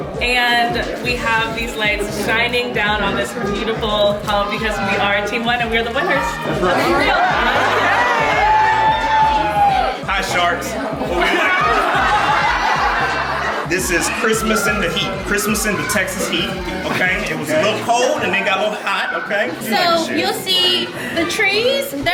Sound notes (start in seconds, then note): 6.7 guests cheering; 11.3 guests laughing